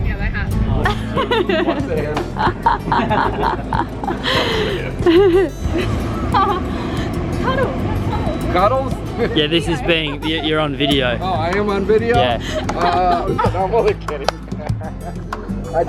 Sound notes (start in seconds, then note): 0.8 laughs; 9.1 laughs; 15.3 laughs